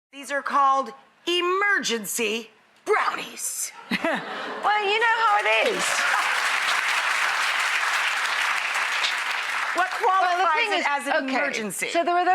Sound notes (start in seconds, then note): 3.8 laughs; 5.2 audience applause